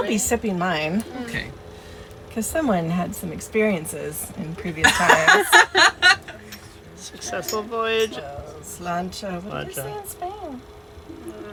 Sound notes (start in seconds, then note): 4.8 laughter